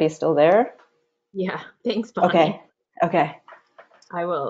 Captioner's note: laughs